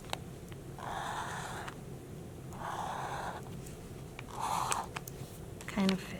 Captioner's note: marker scratching